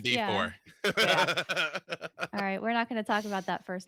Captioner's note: laughs